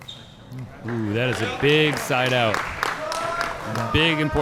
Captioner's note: light applause